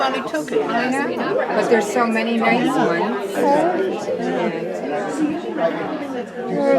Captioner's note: crowd murmering